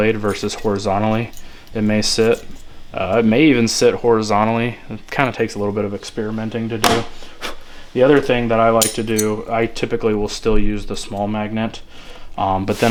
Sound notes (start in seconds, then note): 7.1 air blowing